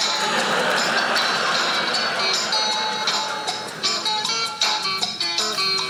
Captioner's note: audience laughing